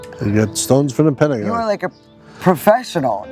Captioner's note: pat